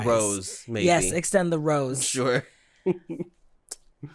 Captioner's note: chuckles